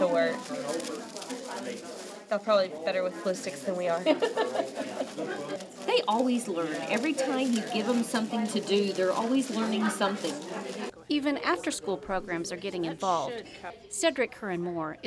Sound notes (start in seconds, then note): 6.0 laugh